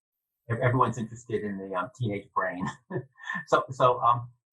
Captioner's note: laughs